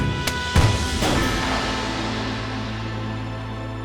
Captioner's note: gunshots